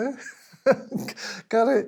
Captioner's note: laughes